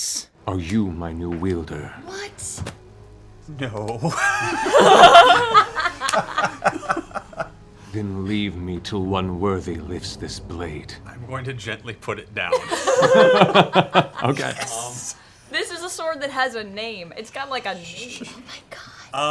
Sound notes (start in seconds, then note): 4.0 laughter